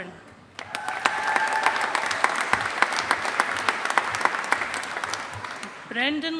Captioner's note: audience applauding